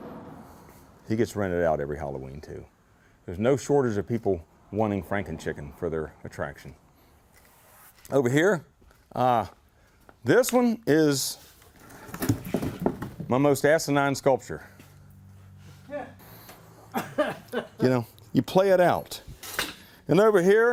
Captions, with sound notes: He gets rented out every Halloween, too. There's no shortage of people wanting Franken Chicken for their attraction. Over here, this one is, my most asinine sculpture. (laughter) You know, you play it out. And over here, just at the end of the day,